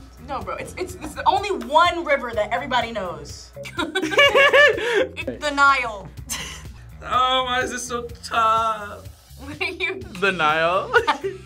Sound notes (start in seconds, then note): 3.6 both laugh; 6.4 laughs; 10.9 both laugh